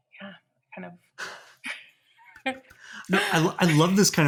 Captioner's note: people cheering